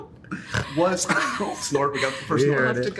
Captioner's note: snorts